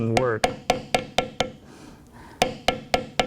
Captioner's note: tapping